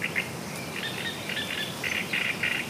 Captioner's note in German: Vogelgezwitscher